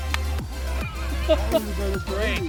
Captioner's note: laughs